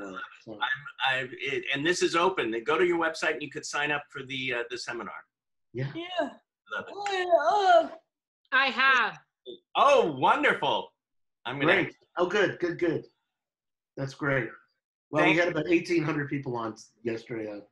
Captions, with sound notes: - And this is open. They go to your website and you could sign up for the seminar. - Yeah. - Love it. (murmurs) - I have. - Oh, wonderful. - Great, good, good. That's great. Well, you got about 1800 people on yesterday.